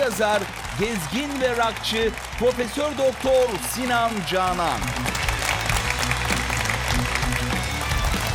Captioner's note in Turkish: alkış